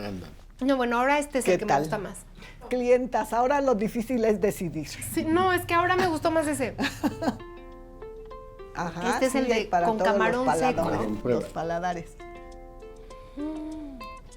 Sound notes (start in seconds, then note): 2.6 speaking Spanish; 5.9 chuckles